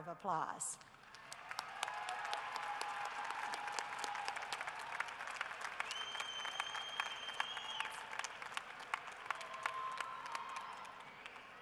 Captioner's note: cheering and applause